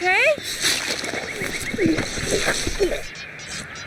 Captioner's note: slashing